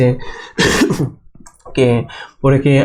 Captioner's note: coughs